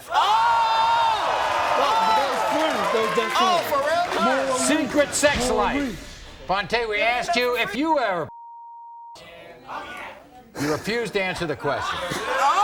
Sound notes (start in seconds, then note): 8.3 beep